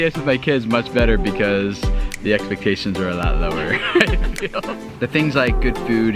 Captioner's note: laughs